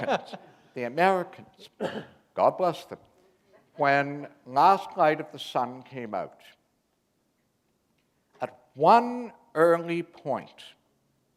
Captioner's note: chuckle